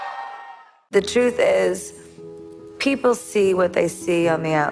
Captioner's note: audience cheering